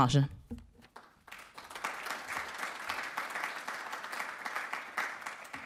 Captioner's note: audience clapping